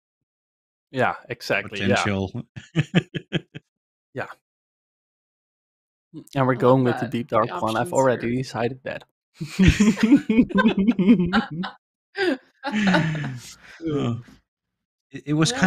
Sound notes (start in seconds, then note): 3.2 laughs; 9.4 laughter